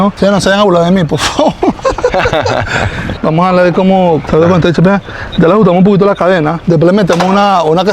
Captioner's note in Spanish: risas